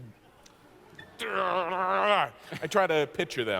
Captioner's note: growls in concentration